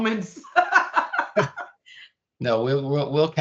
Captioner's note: laughing